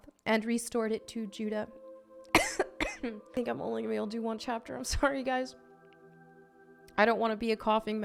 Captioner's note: coughs